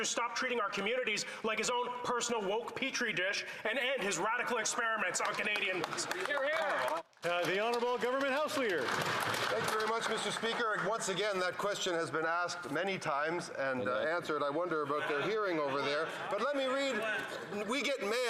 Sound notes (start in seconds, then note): 11.4 some Applause